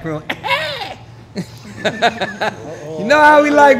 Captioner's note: laughing